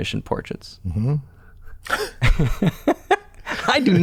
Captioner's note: laughter